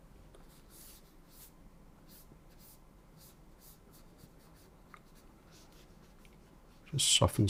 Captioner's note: silence